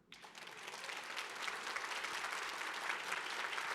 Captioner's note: audience clapping